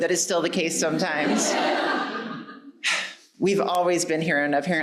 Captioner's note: audience laughing